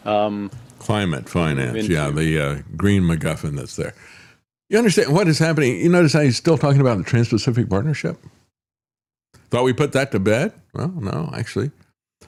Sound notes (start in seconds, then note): none